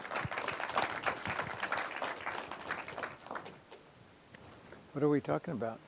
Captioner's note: applause